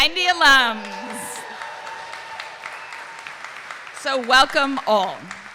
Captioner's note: audience cheering and applauding